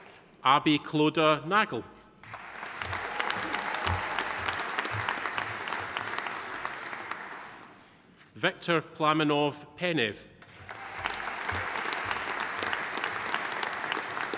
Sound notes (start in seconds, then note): 2.2 audience applauding; 10.4 audience applauding